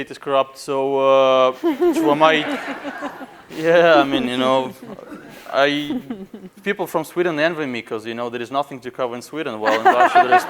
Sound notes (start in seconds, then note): 1.5 laughing